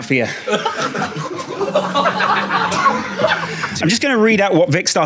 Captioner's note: audience laughing